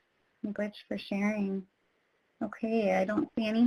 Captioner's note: speaks in foreign language